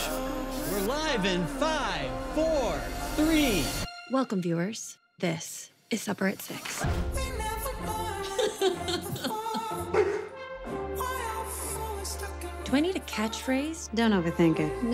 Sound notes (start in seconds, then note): 8.2 laughs; 9.9 barks